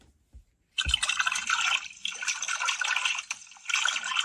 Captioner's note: water gurgles